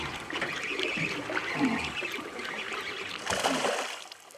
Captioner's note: reel cranking; fish splashing